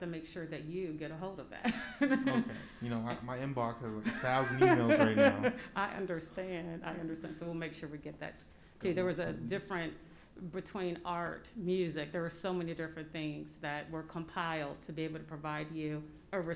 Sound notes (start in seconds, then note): 2.0 laughs